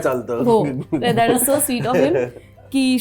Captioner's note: chuckles